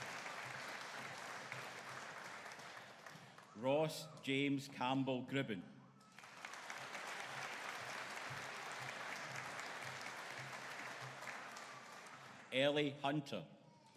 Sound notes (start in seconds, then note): 6.1 audience applauding